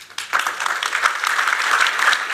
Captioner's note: applause